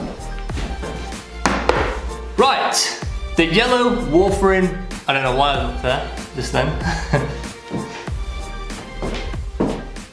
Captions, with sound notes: right the yellow warfarin, I don't know why I looked there, just then (LAUGHTER)